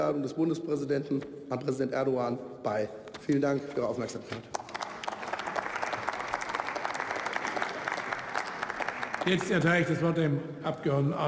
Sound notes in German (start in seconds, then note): 7.5 Beifall